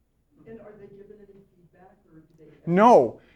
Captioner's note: voiceover